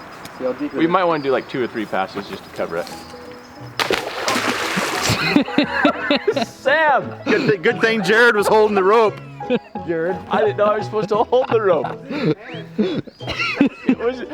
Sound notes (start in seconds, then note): 3.7 water splashes; 4.8 laughter; 11.9 laughter